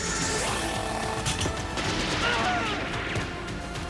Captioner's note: screams